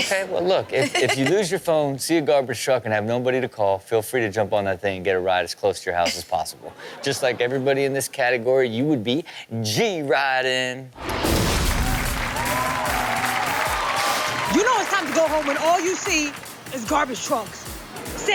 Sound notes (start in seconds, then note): 11.0 rock music plays; 11.0 crowd cheers